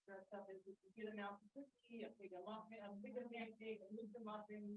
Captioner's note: people chattering